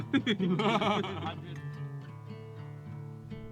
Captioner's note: laughing